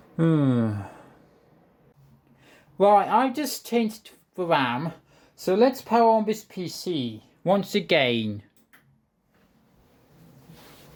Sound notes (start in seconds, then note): 8.5 pc power button pressed